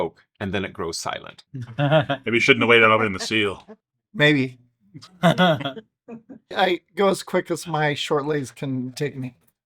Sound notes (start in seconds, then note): 5.0 several people laugh